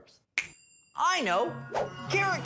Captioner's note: snaps fingers